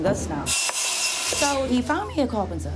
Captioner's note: sawing noise